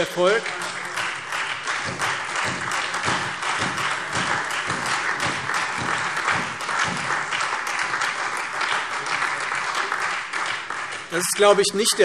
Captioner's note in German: Beifall Freie Demokraten und SPD